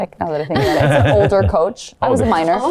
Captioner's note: Anna and Paul chuckle